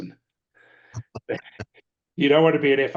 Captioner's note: laughs